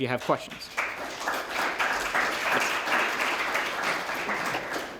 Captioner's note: applause